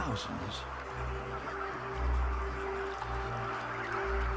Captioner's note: cacophony of clucking and chittering